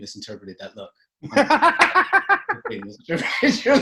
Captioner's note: laughter